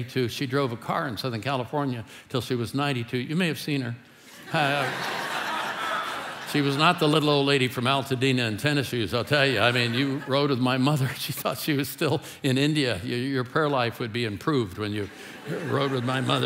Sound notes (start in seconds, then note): 4.3 congregation laughing